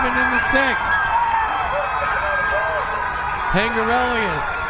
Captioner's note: crowd cheering